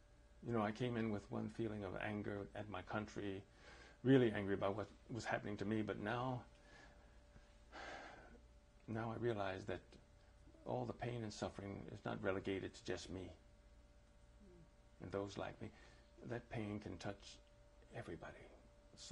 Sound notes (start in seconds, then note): 7.7 sighs